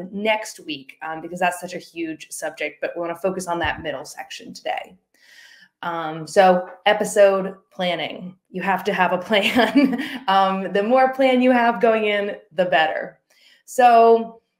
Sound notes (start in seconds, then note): 9.4 laughing